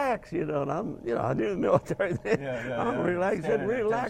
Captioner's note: laughing